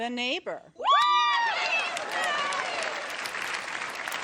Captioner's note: cheering